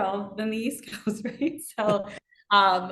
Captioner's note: laughing